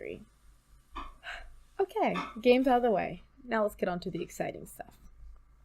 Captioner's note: deep breath